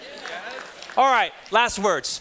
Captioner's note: students chattering